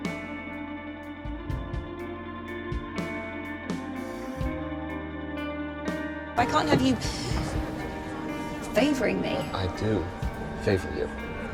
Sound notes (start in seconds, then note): 6.5 voiceover